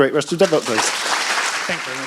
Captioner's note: applause